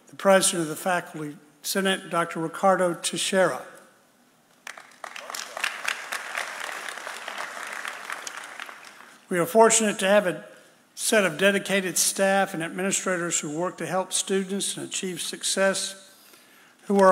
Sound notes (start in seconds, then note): 4.6 audience applauding